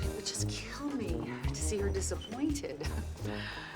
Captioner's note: chuckles